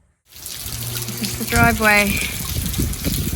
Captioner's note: heavy water falling